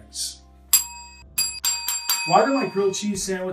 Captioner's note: ding